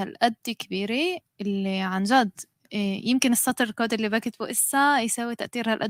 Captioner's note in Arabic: لغة أجنبية